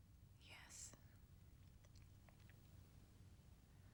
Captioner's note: whispering